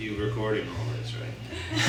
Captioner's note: followed by laughter